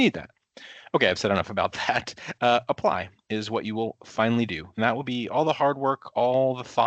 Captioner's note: chuckling